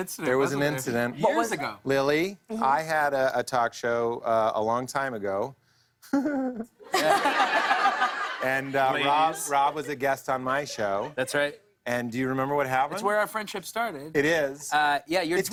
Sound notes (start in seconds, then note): 6.1 giggles; 6.1 laughter